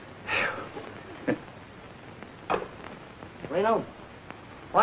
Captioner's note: Red chuckling